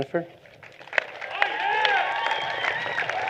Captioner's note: applause